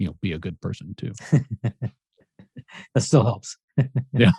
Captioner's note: laughs